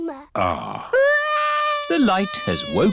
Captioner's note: crying